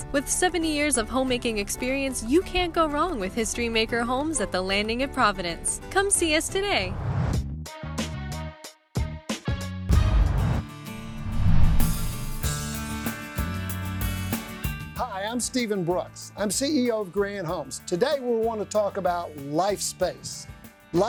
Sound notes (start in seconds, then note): 6.8 swoosh; 10.9 swoosh